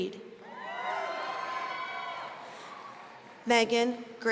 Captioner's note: audience cheering